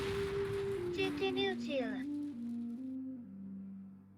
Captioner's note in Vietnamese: Tiếng Pháp